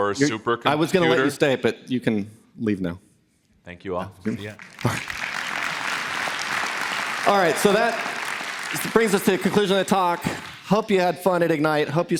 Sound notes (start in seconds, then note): 4.4 applause